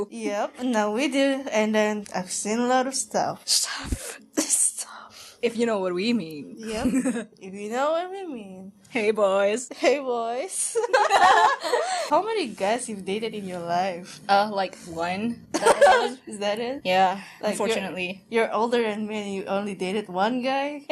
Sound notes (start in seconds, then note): 10.9 even more laughter; 15.5 giggle